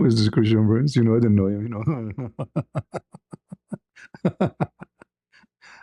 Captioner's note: ketawa